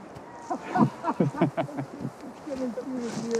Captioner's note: both laughing